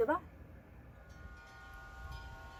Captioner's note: windchimes